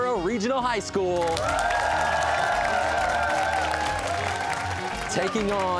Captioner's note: cheers and applause